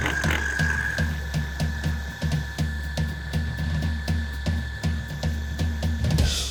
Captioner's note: food processor whirring; lively music